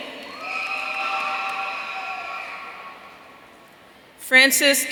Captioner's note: audience cheering